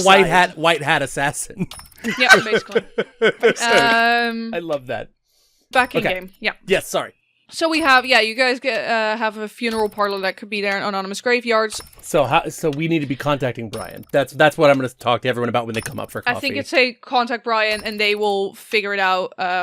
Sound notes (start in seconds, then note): 2.0 laughter; 2.0 laughing